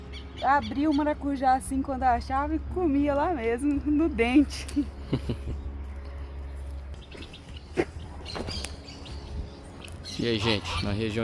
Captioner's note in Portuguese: risadas